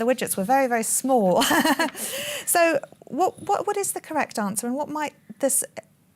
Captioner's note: laughs